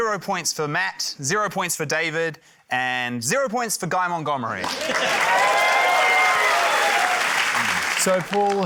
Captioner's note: cheering, applause